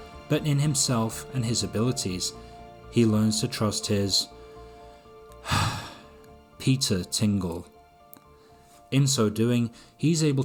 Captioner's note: performative sigh